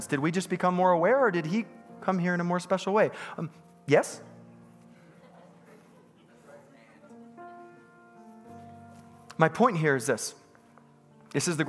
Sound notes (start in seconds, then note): 3.8 congregants bustling; 8.5 soft piano music